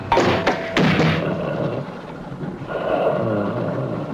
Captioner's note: creature growling